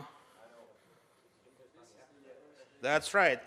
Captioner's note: background talk